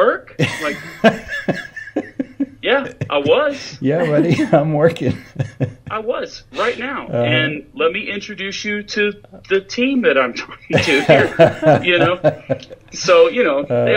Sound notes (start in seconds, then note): 0.4 laughs; 10.7 laughs